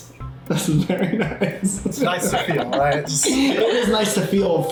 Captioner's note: laughs